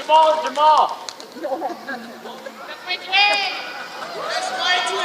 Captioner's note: applause